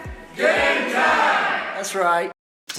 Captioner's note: crowd